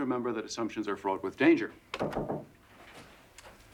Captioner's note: knocking